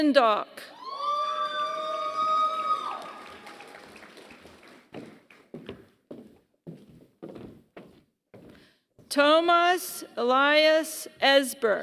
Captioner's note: applause